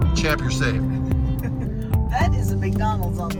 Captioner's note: chuckles